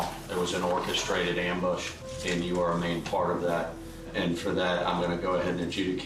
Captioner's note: none